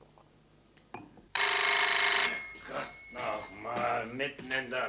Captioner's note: phone rings